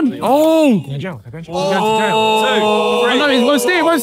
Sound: all ohing

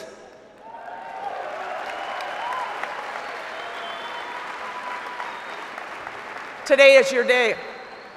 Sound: applause

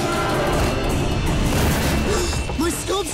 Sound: gasping

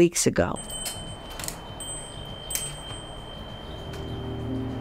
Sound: bell rings; gentle music

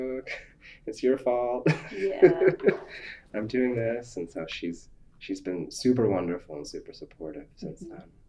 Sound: laughs

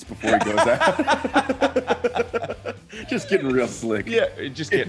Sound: laugh

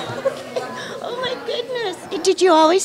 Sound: laughter

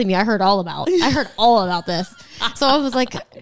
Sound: laughs

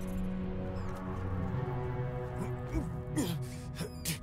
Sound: grunt

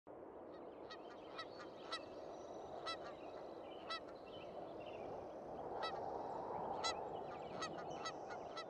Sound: sound of geese and wind

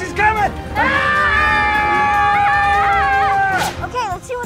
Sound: screams

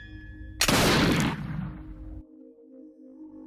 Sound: bang!

